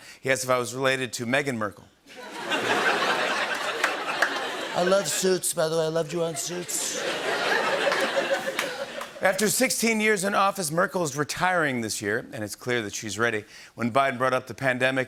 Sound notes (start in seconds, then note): 2.1 laughter